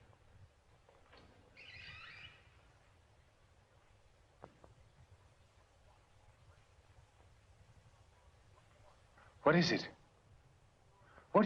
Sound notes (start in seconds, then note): 1.1 door creaking